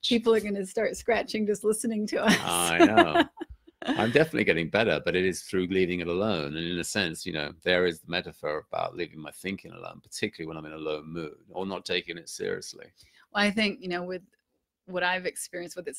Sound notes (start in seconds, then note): 2.3 laughs